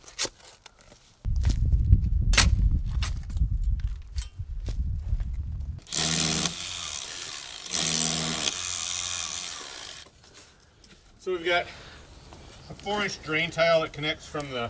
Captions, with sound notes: (shovel scraping) (machine drilling) - So we've got a four inch drain tile that connects from